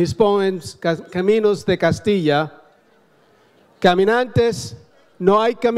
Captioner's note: speaks in foreign language